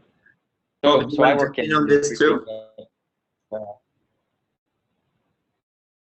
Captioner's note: multiple people talking